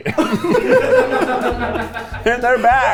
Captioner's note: all laugh